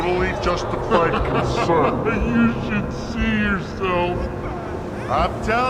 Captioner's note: laughing